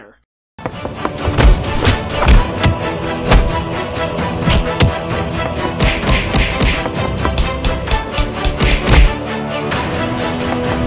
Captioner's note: various fight sounds